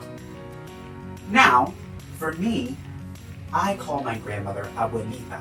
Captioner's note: speaking in Spanish